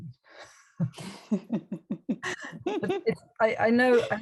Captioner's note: both laugh